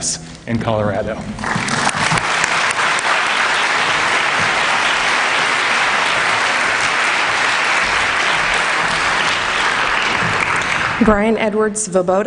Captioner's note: applause